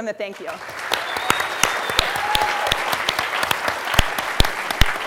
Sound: applause

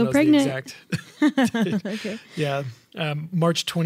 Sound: laughing

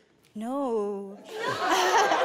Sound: laughing

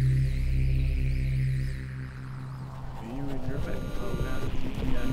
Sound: man whispering

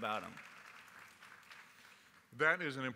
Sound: applause

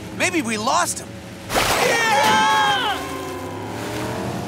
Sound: screaming

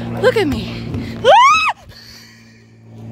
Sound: screams

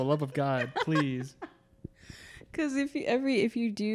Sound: laughing

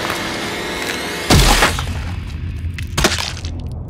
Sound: explosive sound of skull crushing; splat

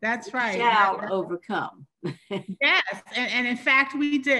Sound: laughs

